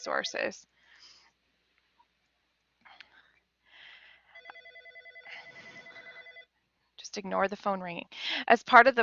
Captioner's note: phone ringing